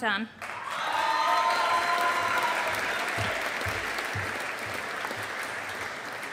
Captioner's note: audience applauding